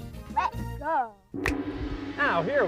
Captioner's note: gong; finger snaps